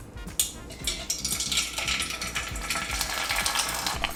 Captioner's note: oil sizzling